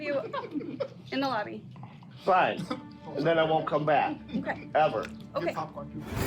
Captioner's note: moviegoers muffled giggle